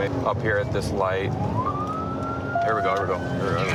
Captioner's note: sirens